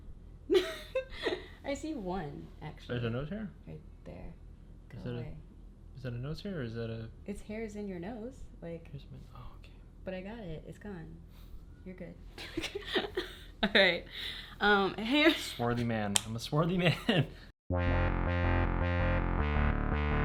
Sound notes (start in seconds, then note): 0.2 laughs; 12.7 laughs; 17.8 techno music